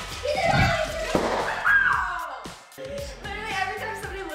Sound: excited chatter; balloon pops

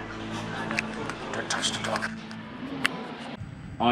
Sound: whispering

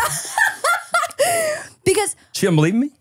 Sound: laughs

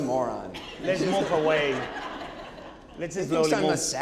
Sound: audience laughing

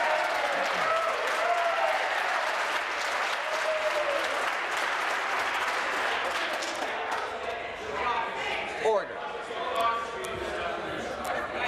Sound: some Applause

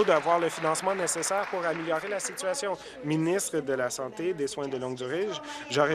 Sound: applause

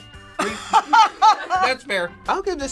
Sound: laughing

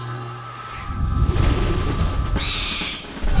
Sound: owlbear screech

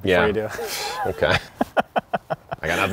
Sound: laughing

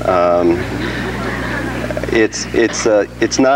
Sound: audience laughs

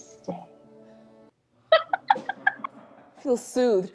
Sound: laughs

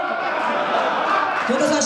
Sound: laughs

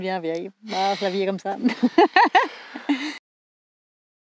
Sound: laughs

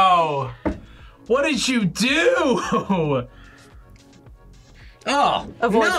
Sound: laughs

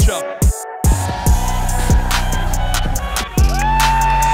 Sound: crowd cheering

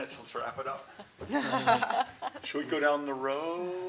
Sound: laughter

